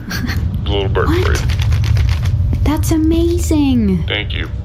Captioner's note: flaps its wings